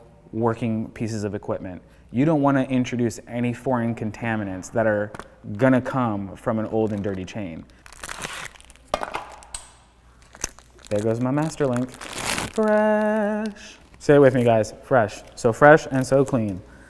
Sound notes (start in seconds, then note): 9.4 link clinks; 10.1 wrapper crackles